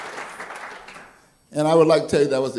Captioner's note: applause